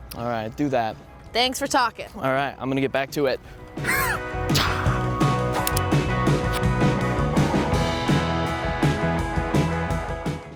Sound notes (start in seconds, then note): 3.8 makes fighting noises; 5.6 rock music continues